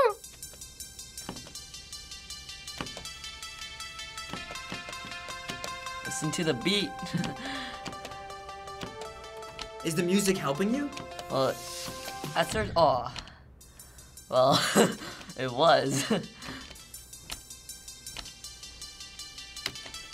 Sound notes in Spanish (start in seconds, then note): 15.9 risas